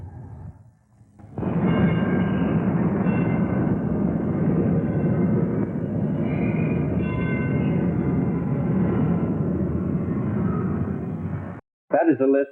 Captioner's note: road noise